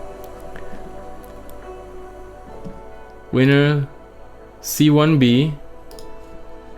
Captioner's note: clicking mouse